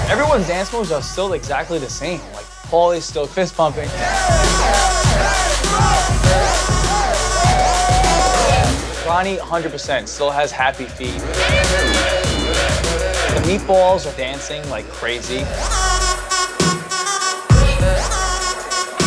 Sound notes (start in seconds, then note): 3.8 all cheering; 5.0 uptempo dance music